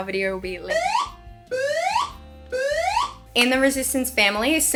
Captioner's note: siren wailing